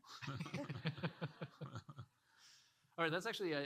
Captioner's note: audience laughing